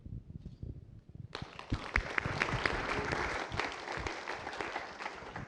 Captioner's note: applause